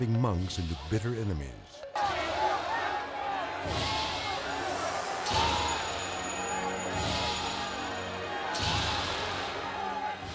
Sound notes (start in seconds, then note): 1.8 protesters chattering indistinctly; 6.6 depressing music